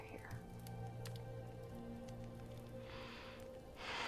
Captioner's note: fire crackling